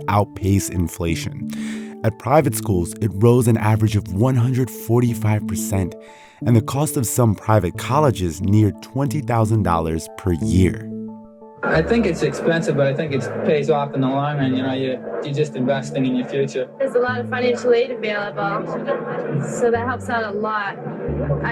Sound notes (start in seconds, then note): 11.6 soundbite of archived recording